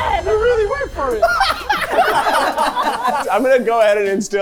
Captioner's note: everyone laughing